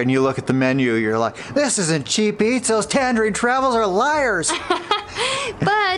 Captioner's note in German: Lachen